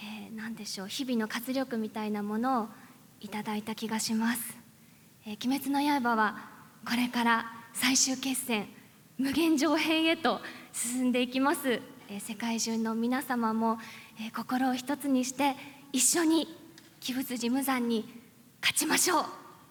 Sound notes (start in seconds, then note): none